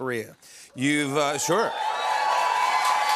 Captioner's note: audience cheers, applauds